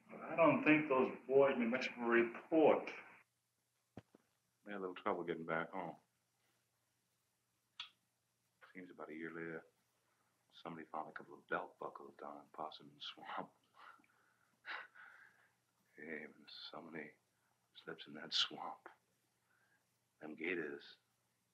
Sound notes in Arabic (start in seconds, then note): 14.6 يضحك